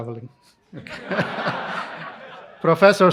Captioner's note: laughter